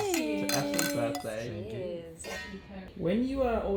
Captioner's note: all cheering; glass tinkling